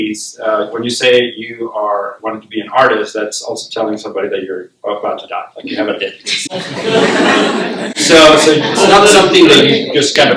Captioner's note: laughter